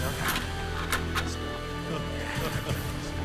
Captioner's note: overlapping chattering; Latrell laughs